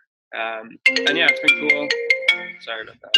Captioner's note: cellphone ringing